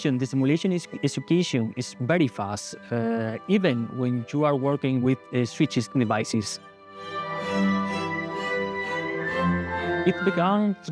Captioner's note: high-frequency